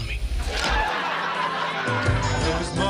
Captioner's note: laugh track